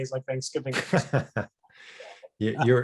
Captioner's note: laughing